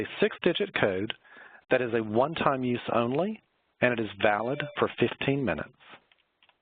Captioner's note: text alert chimes